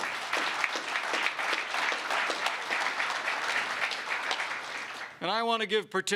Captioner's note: applause